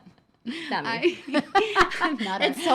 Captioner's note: laughing